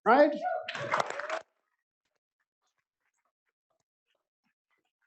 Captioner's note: applause